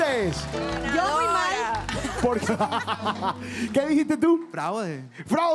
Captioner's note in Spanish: Ríe